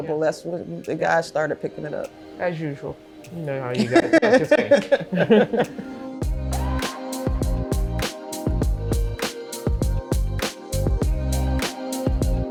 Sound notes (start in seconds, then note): 3.8 laughter; 6.6 hypnotic hiphop music